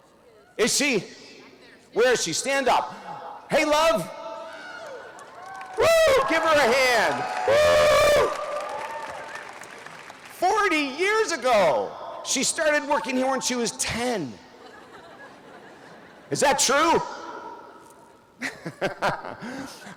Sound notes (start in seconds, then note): 6.5 audience cheers and applause; 14.5 audience laughs; 18.4 laughs